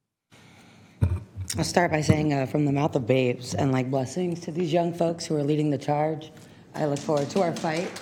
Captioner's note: applause